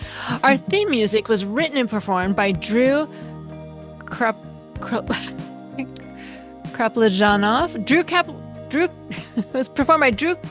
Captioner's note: laughs